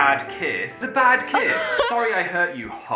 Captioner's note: cracks up